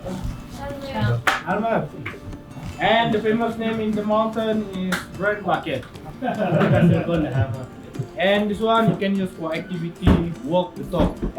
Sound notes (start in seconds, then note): 6.0 laugh